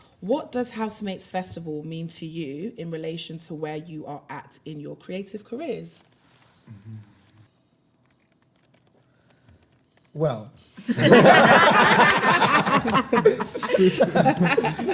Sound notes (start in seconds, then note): 10.8 everyone laughs